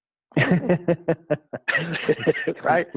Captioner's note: laughing